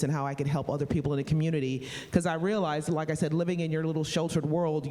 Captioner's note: none